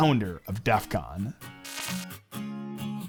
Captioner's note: electric buzzing; upbeat music